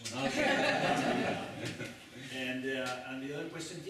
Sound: laughter

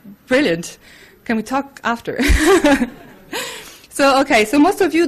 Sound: laughs

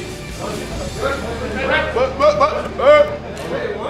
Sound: team yelling and talking

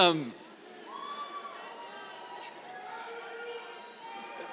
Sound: scattered cheers, yells

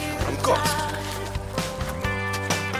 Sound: rips

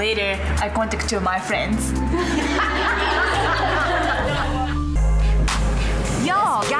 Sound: all laugh

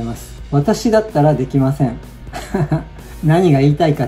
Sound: laughs

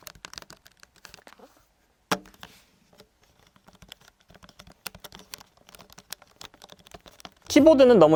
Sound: iRiver Dicple D1000 Keyboard Typing; iRiver Dicple D10 Keyboard Typing

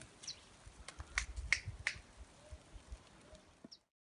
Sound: snapping sound

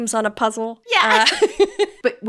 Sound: laughing

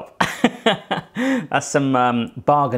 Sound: chuckling

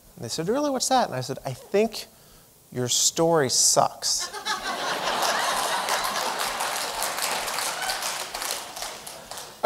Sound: laughing

